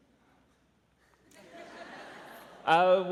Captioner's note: laughter